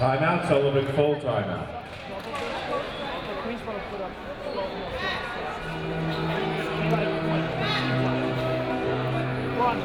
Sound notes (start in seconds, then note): 3.3 audience chattering